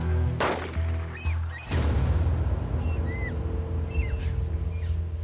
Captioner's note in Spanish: Disparos